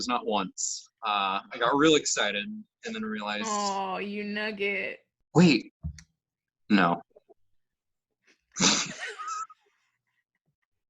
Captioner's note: laughter